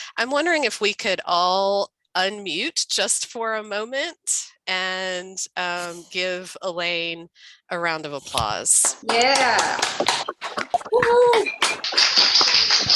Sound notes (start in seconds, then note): 8.8 members applauding